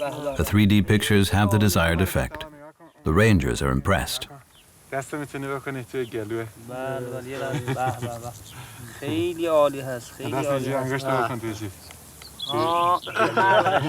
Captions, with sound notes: The 3D pictures have the desired effect. The rangers are impressed. [they speak Farsi]